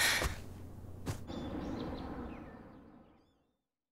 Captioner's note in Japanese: 飛行機の音